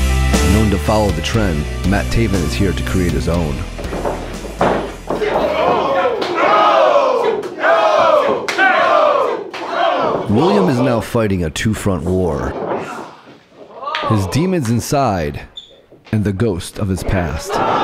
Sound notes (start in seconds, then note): 4.7 audience cheering